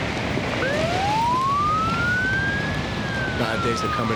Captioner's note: sirens wailing